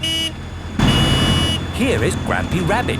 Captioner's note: honking